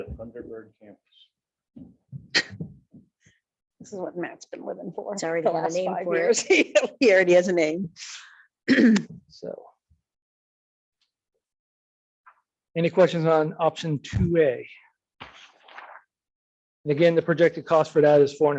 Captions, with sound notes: - Could be the Thunderbird campus. - This is what Matt is been living for the last five years. (chuckles) Yeah, he already has a name. (clears throat) - Any questions on option 2A? And again, the projected cost for that